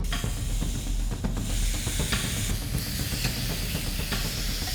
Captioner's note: food sizzling